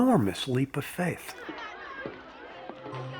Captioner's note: children chattering